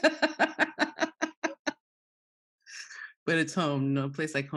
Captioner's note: laugh